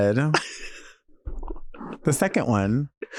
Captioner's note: Nymphia laughing